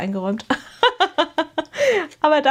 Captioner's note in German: gelächter